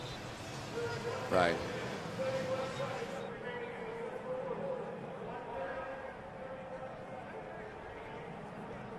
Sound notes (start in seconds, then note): 2.2 pa announcement